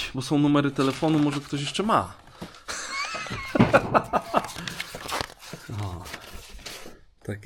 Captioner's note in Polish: śmiech